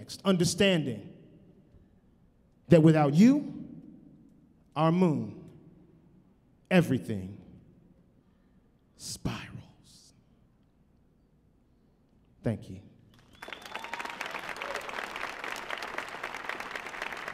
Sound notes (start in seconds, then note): 13.1 audience applauding